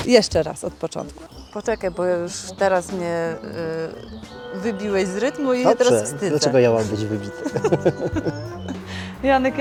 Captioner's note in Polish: śmiech